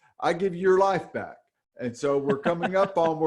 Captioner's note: laughs